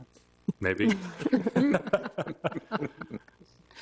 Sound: group laughs

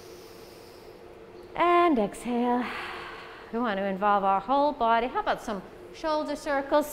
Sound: exhale

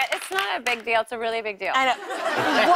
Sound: laughter

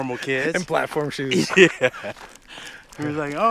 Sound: laughing

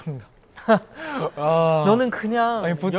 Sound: haha

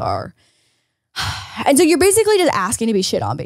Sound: sighs

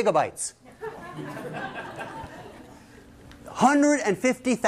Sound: laughter

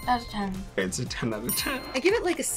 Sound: bell chimes; bell chimes

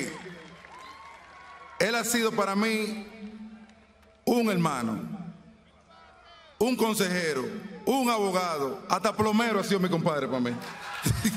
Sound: speaking spanish

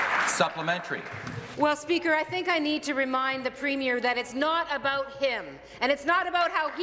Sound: applause

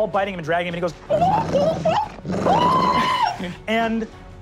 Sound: shrill ululating

